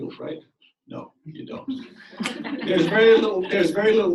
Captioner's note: audience laughs